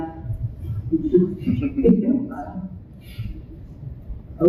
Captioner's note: people laugh